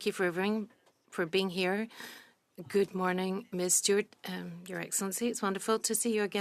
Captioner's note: speaking French